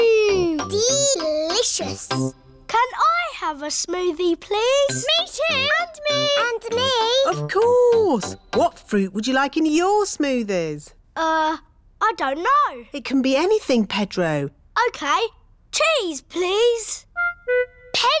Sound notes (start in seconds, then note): none